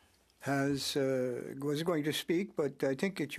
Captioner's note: speaking French